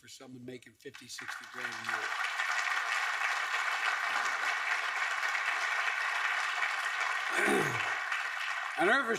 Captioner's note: applause